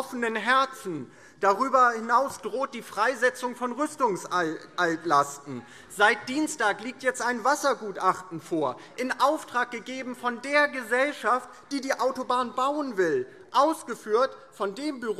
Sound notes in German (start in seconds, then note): none